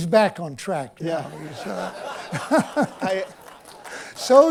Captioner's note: laughter